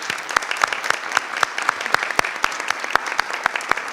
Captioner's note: group applauds